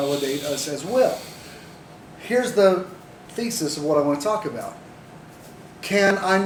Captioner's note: someone takes a deep breath